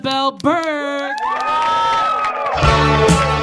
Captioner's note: audience clapping; audience cheering; upbeat music